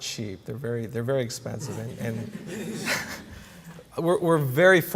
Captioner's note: laughter